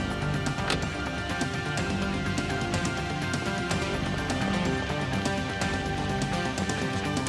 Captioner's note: dramatic music; car door slams